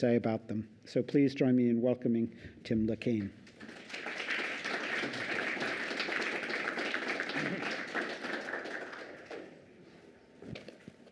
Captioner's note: applause